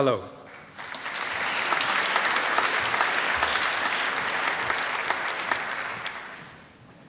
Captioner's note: applause